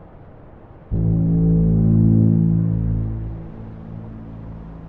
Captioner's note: horn blares